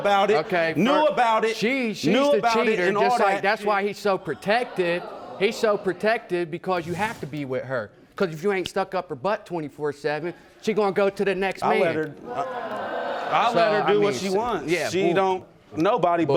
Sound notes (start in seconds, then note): 11.3 audience gasps